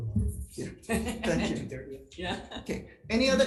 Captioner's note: attendees laughing